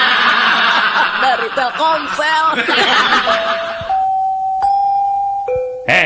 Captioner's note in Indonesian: tertawa